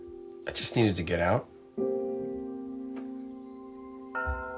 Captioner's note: bell ringing